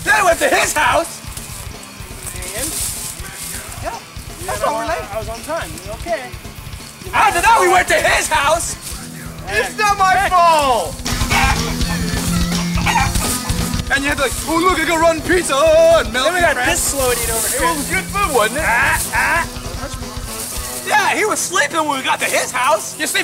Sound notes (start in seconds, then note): 11.0 upbeat metal music; 11.2 chicken clucking